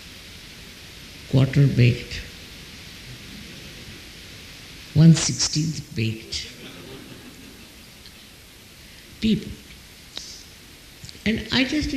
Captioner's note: laughs